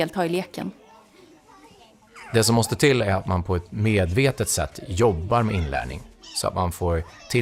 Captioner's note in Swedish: Mansröst